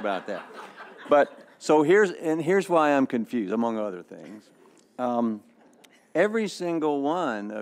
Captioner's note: laughter